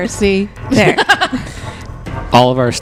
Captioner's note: laughs